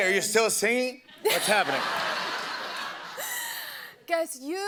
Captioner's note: laughter